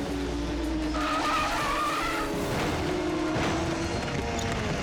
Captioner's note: tires screeching